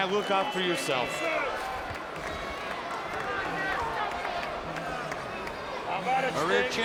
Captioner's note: applause